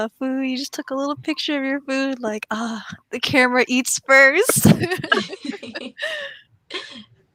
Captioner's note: everyone laughs